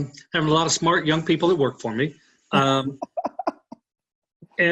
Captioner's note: laughing; laughing